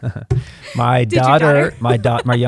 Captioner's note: chuckles